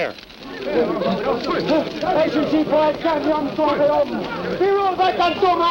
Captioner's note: chattering in foreign language